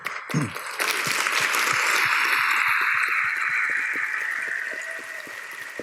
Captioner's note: applause